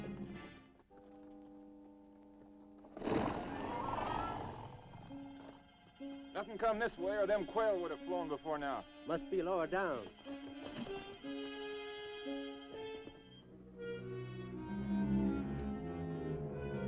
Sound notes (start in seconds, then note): 3.0 horse hooves clopping; 10.6 dramatic music